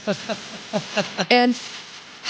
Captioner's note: laughing